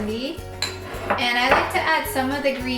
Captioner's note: shuffling